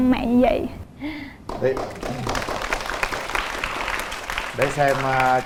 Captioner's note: applause